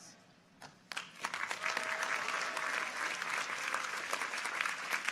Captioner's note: audience applauds